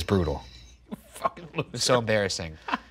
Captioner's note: laughing